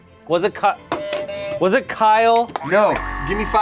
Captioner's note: buzzer buzzes